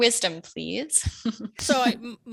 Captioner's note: panelist giggle